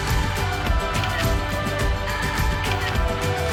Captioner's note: camera shutters